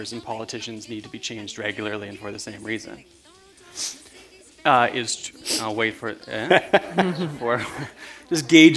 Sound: chuckle

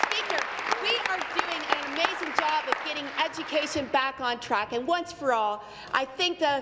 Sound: applause

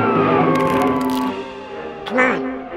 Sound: egg cracks

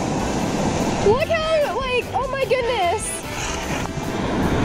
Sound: water splashing

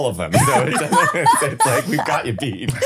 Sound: laughing

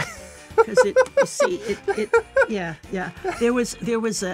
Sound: laughs

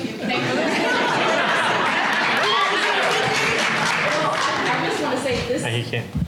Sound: applause

